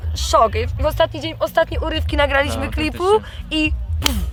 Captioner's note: boom